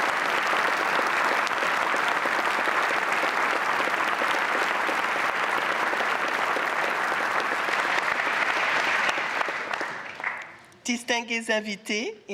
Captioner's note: applause